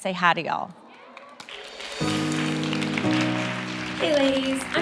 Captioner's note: everyone applauding